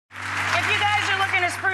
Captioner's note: audience claps